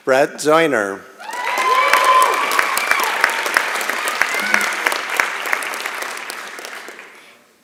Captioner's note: applause and Cheering